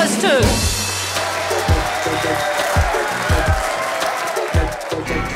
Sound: crowd claps and cheers

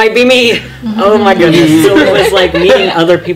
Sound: laughter

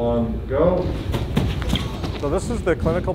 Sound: feet thudding

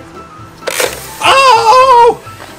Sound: water spraying; crocodile closing

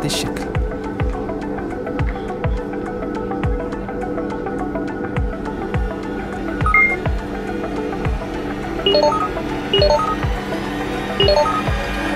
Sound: مؤثر صوتي

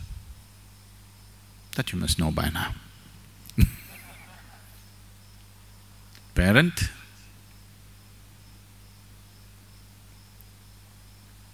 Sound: few Laugh

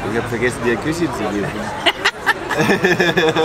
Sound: laughter

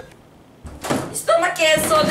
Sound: slam

